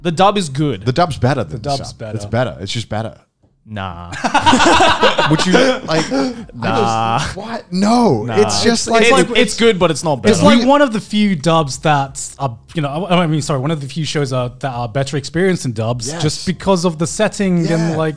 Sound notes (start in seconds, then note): 4.1 all laughing